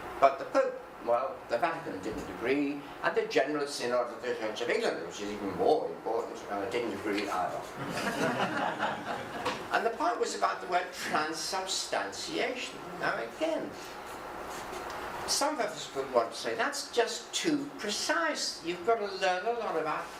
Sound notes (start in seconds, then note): 7.8 audience laughing